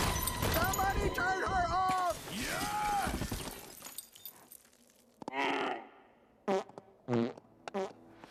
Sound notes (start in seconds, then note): 5.0 Moose bleats; 6.4 breaks wind repeatedly